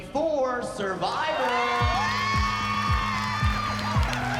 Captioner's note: applause, cheering